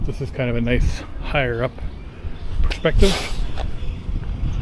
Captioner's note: hiss